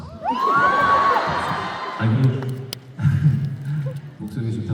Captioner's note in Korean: 환호